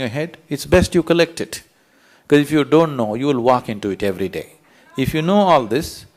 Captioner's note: ضحك